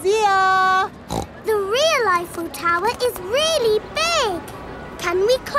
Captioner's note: snorts